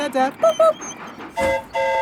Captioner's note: mimics train whistle; train whistle toots